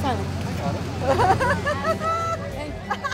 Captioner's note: laughing